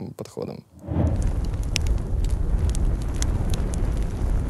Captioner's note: fire crackling